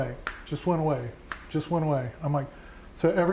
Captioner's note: fingers snap